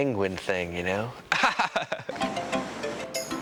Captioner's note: chuckles